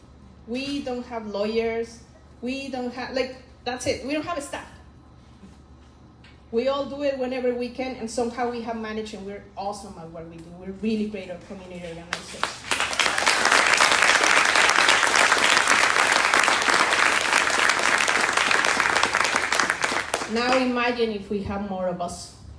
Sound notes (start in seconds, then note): 12.2 crowd applauding